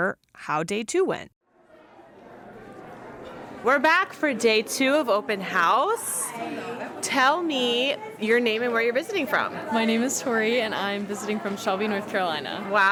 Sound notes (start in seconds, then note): 3.6 background chatter